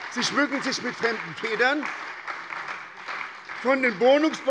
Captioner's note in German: Beifall bei der SPD